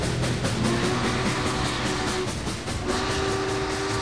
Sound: whistle blowing

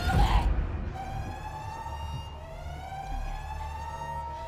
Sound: siren blaring

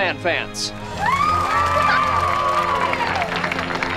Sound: cheering

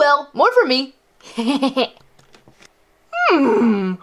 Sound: laughs

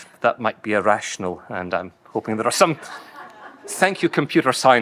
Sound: audience laughing

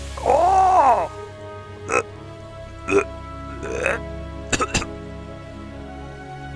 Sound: gagging and coughing noises

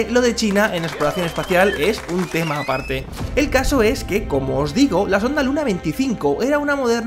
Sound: people applauding

